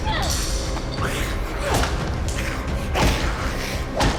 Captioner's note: Edith yelling; bat thwacking